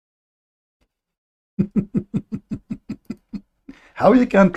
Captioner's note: Ketawa